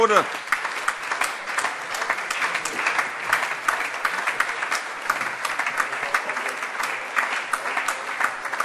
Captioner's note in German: Beifall - überreicht ein Weinpräsent